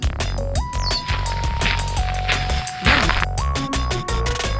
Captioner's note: laughs